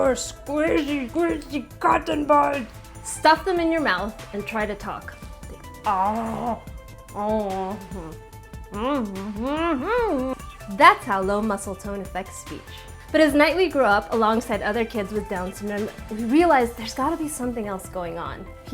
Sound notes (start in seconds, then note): 6.0 attempts at talking